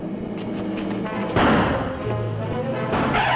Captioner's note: gunshots